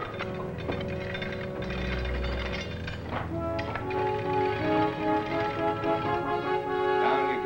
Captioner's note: chains rattling